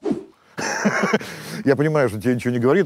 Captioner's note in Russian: смеется